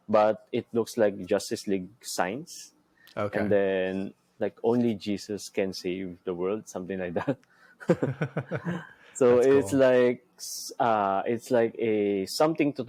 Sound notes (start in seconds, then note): 7.8 both chuckling